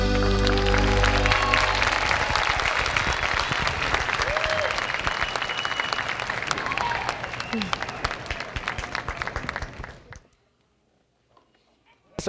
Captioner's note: applause